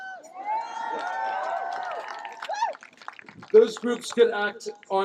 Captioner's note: cheering, applause